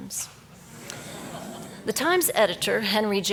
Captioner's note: audience laughs